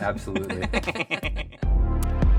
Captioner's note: laughing